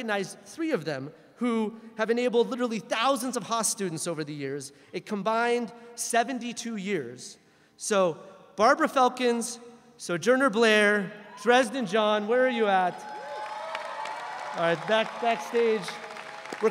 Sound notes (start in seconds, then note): 12.2 audience cheering